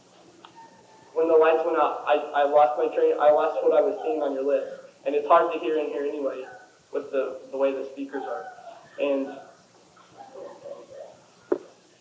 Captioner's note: distracted by wailing